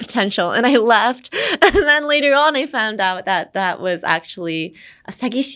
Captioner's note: chuckles